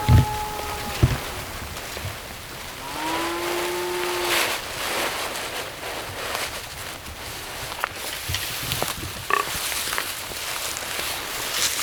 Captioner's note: shuffling through grass, grunting to sound like a deer